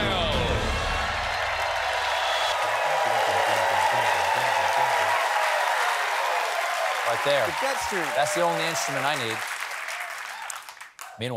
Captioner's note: cheers and applause